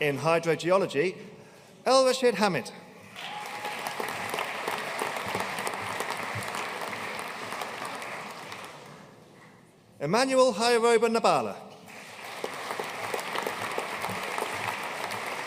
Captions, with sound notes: In Hydrogeology, Elrashid Hamid. (AUDIENCE CHEERING AND APPLAUDING) Emmanuel Hyeroba Nabala. (AUDIENCE APPLAUDING)